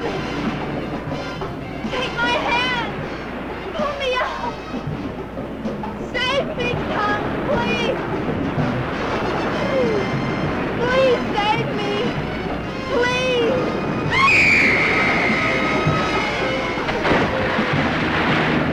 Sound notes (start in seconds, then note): 0.3 suspenseful music; 2.5 waves crashing; 7.7 waves crashing; 14.0 screaming; 16.7 water splashing